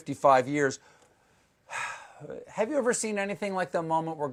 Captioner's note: sighs